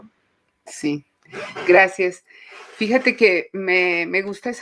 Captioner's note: speaking Spanish